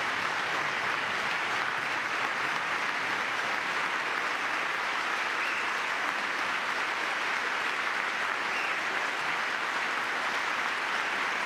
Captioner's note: applause